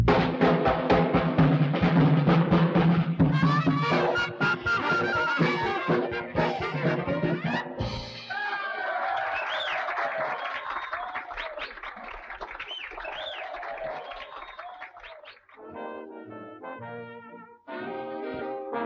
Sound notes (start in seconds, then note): 0.0 dramatic music; 4.1 upbeat jazzy music; 8.1 audience cheering; 8.3 audience applauding; 15.6 gentle music